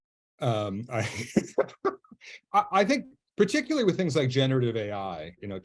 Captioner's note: he laughs